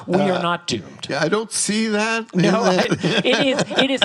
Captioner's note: laughs